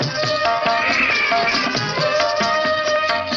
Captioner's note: baby crying